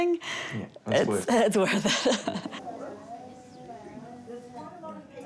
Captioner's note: laughs